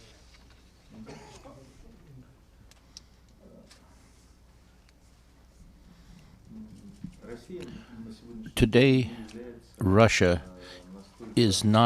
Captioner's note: through translator